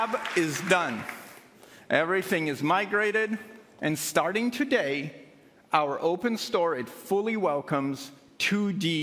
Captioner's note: applause